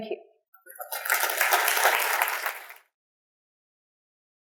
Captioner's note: applause